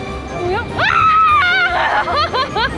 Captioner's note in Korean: 비명; 웃음